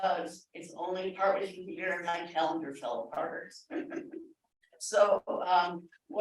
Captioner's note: laughter